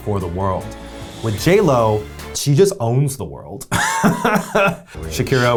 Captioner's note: laughs